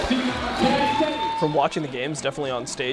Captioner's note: crowd cheering